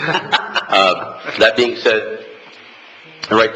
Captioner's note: laughing